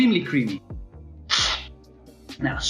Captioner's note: slurping sound